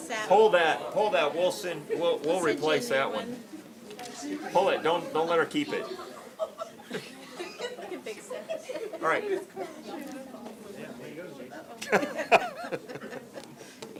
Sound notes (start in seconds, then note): 5.6 laughter